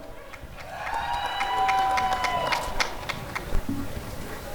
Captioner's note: applause and cheering